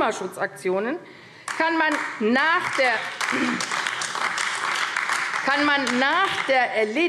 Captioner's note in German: Beifall AfD